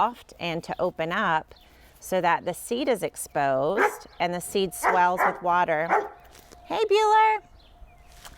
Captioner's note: dog barking